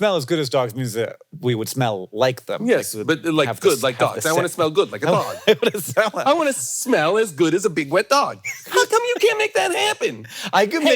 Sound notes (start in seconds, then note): 5.0 Hank laughing